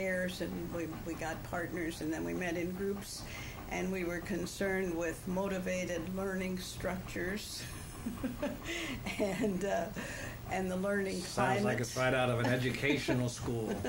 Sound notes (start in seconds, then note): 7.7 laughs